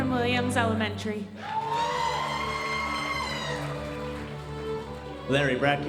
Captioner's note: audience cheering and applauding